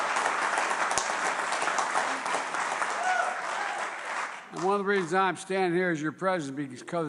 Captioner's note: applause